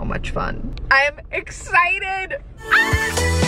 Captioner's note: screaming; upbeat music